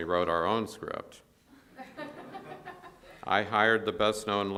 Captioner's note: audience laughs